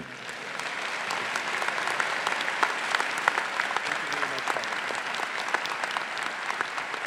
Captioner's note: faculty, graduates, and audience applauding